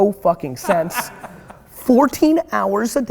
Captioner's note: laughing